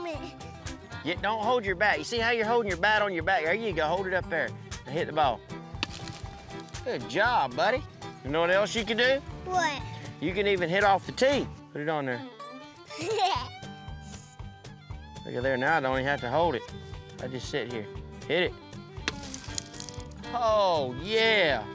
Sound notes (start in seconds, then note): 12.8 giggles